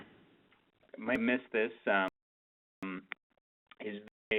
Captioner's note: voiceover